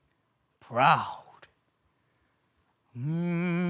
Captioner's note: silence; humming